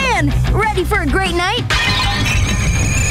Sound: clanking

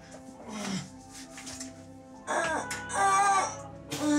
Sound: woman groans

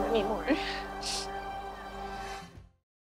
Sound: sniffs

